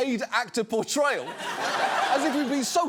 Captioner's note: audience laughs